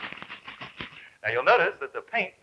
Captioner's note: liquid sloshing